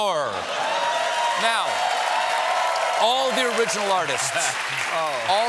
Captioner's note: cheers and applause